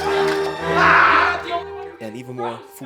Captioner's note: Vincent screams